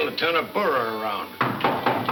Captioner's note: knocking